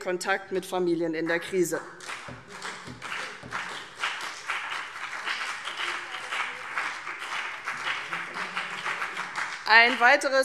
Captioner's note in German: Beifall CDU und BÜNDNIS 90/DIE GRÜNEN